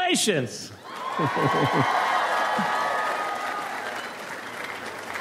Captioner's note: audience applauds